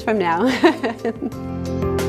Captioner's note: laughs; bright upbeat music